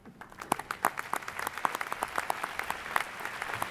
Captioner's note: applause